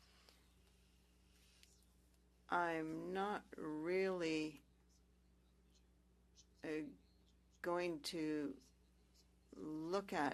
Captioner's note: speaking French